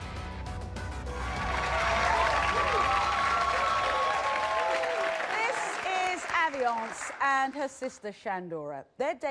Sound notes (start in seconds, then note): 1.0 cheers